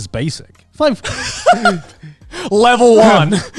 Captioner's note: laughing